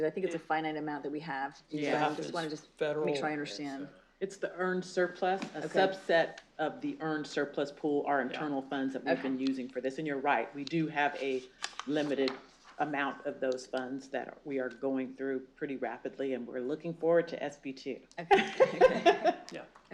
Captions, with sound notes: I think it's a finite amount that we have. I want to just make sure I understand. It's the earned surplus-- a subset of the earned surplus pool, our internal funds we've been using for this. And you're right, we do have a limited amount of those funds that are we are going through pretty rapidly. And we're looking forward to SBT. [LAUGHTER]